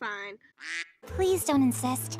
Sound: quack

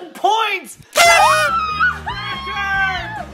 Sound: party horn blows; mom exclaims

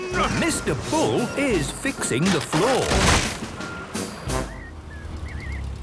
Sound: tractor noise, floorboards cracking

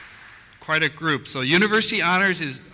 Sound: voiceover

